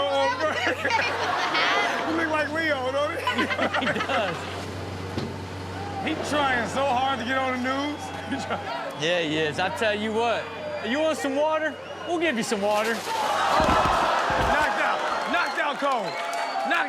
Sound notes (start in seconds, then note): 3.7 all laughing; 5.2 fist thuds; 8.9 laughs; 13.4 audience oohing; 13.5 water splashing